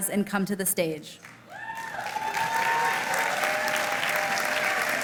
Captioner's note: applause